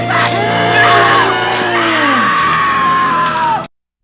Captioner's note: screams